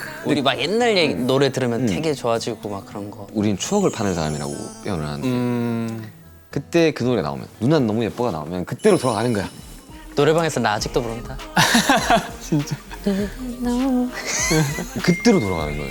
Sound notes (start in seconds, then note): 11.5 haha